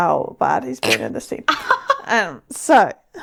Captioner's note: laughing